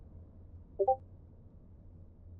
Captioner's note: notification dings